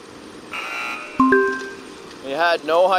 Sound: buzzer sounding off; notification beeping

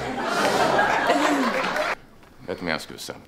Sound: audience laughs

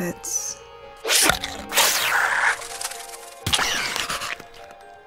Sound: Marrownet swishing and squishing

